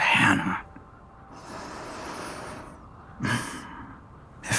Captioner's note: deep breath